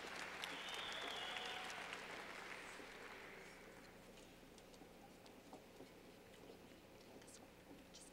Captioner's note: clapping